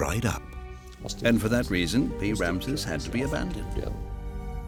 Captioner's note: in German